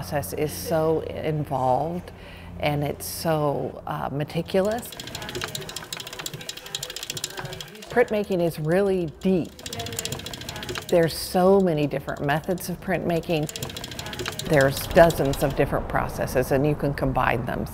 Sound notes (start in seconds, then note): 4.9 metal gears click